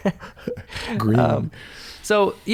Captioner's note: chuckles